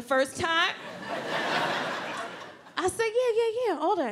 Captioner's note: audience laughs